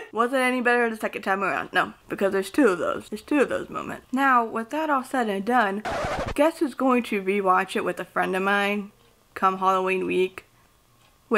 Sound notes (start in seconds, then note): 5.8 record scratch sound